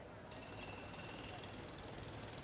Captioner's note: jackhammer drilling